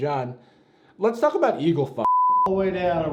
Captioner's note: beep